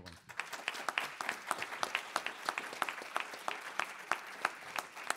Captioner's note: audience applauding